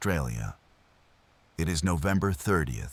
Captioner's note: wind Blowing